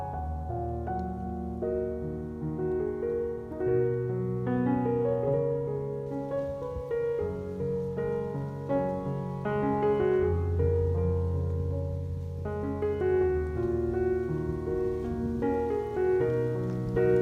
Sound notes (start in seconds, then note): 12.1 rustling leaves from last year blowing in the bare-branched trees